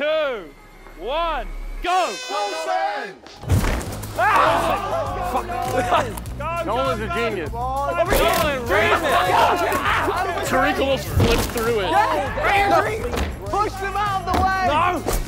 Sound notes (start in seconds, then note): 1.7 horn blowing; 4.0 contestants screaming